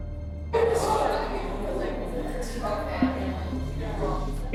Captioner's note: inmates chattering